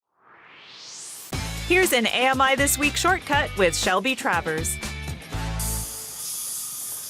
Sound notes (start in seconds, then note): 0.0 swoosh